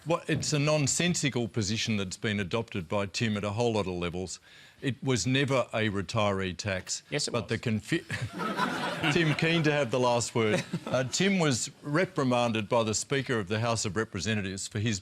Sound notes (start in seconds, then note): 8.0 laughter; 8.2 laughs